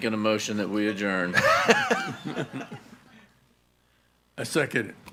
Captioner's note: people laughing